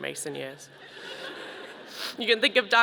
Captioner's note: audience laughing